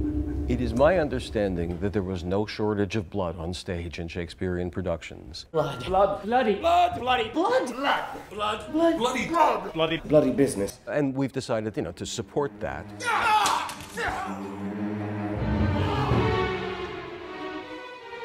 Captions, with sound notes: It is my understanding that there was no shortage of blood on stage in Shakespearean productions. blood—blood—bloody—blood bloody—blood—blood—blood blood—blood—bloody—blood—bloody bloody business. And we've decided, you know, to support that. [cries of pain] [suspenseful music]